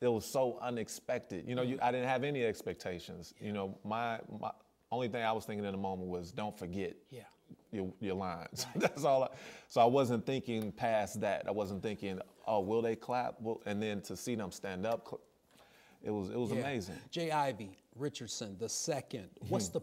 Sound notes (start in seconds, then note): 8.6 laughs